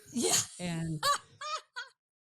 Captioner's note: laughing